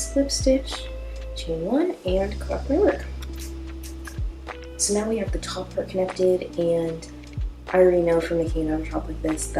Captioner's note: scissor cut sound